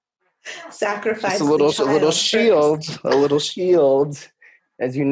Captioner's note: laughing